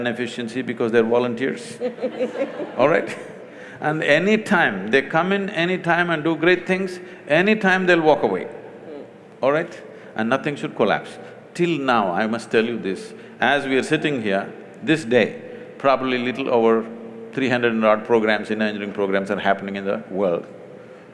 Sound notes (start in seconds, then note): 1.7 laughter; 1.7 laughs